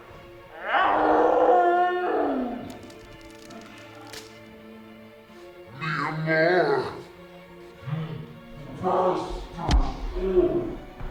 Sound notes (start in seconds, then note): 2.4 bone snapping